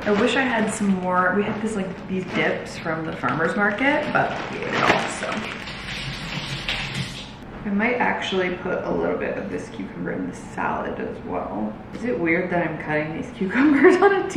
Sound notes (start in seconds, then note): 6.4 water sloshing; 13.7 laughing